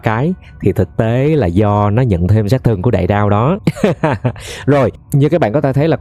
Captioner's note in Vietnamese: tiếng cười